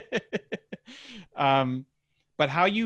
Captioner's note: laughing